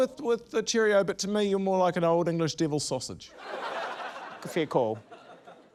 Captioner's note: laughter